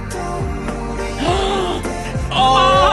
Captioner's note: gasp